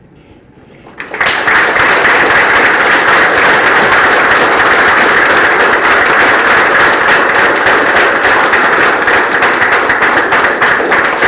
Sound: end of lecture, applause for 10 seconds

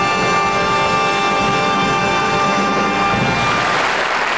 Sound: audience applauding

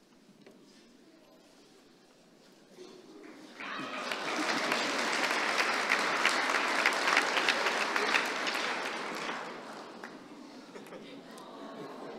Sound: applause

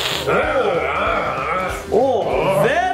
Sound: imitates Dracula hissing; mummy growling

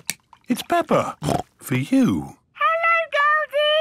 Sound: snorts

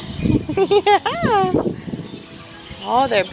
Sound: laughs

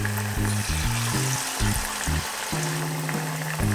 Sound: frying sound

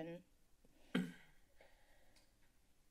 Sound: clears Throat

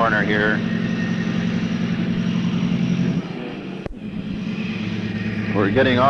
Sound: sound of the train moving

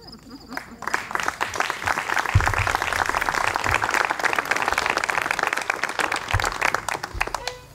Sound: applause

